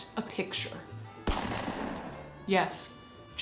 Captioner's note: gun fires